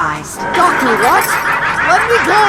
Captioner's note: prerecorded maniacal laughter